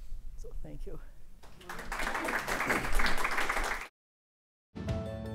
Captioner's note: applause